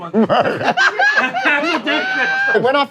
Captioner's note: laughing